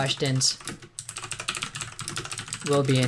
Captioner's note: typing